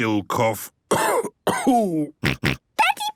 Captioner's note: cough; snort